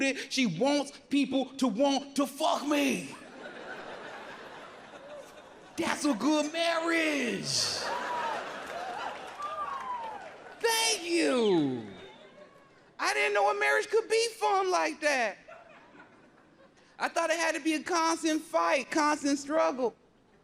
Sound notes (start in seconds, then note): 2.8 audience laughs; 8.1 audience laughs and whoops